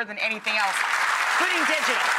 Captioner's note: audience applauds